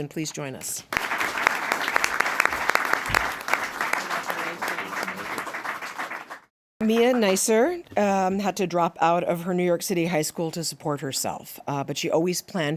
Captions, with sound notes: EDWIN, PLEASE JOIN US. [APPLAUSE] >> MIA HAD TO DROP OUT OF HER NEW YORK CITY HIGH SCHOOL TO SUPPORT HERSELF, BUT SHE ALWAYS